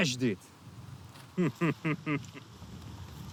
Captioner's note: chuckles